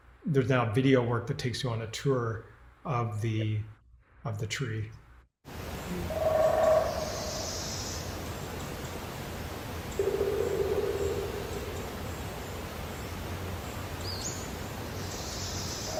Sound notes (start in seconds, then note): 5.6 croaking, chirping